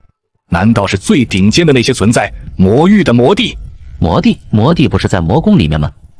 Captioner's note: none